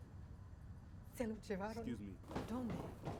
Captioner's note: speaking spanish